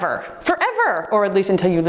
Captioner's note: timer beeps